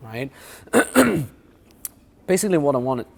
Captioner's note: clears throat